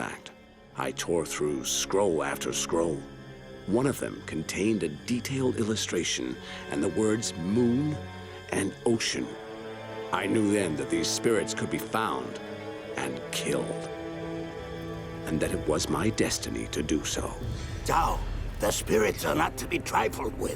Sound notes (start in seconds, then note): none